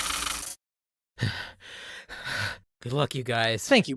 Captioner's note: nervous breathing